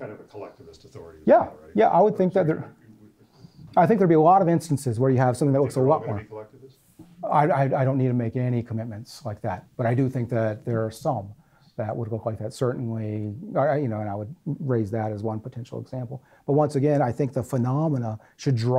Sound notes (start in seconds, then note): 0.3 voiceover; 6.2 voiceover